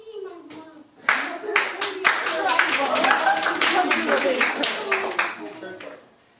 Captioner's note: applause